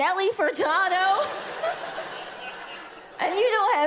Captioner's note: audience laughs